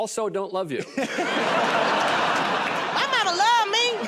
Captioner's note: laughter and applause